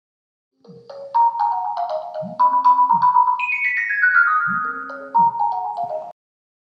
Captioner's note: phone ringing